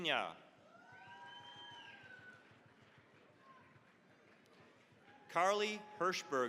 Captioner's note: cheering, applause